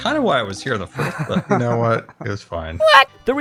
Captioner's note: laughs